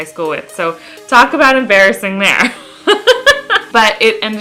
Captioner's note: laughs